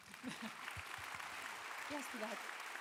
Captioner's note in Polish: oklaski